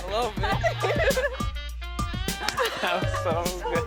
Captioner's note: laughs